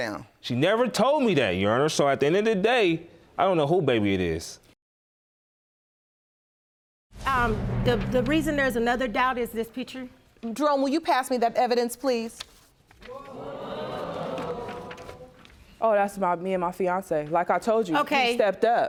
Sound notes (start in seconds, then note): 13.1 audience groaning